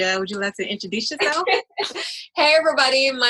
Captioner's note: laughs